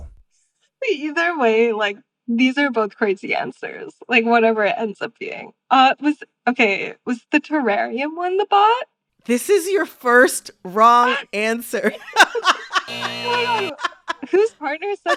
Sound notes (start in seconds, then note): 11.8 laughter; 12.8 soundbite of buzzer